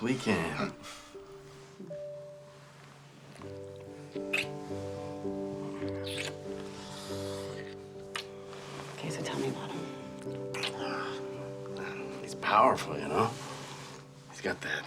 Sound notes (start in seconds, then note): 2.3 gentle music; 3.4 kissing